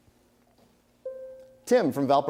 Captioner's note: bell rings